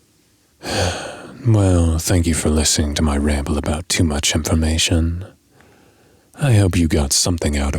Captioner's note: sigh